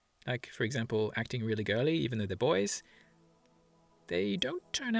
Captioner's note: none